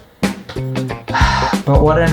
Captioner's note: sigh